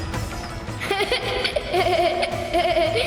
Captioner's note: laughs